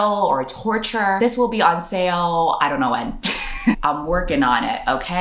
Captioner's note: laughs